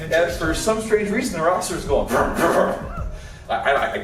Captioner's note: motorcycle noises